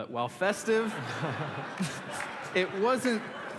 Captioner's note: laughter